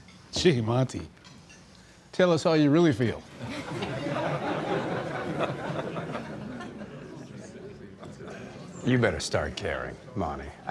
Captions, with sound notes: Gee, Monty. Tell us how you really feel. [LAUGHTER] You better start caring, Monty.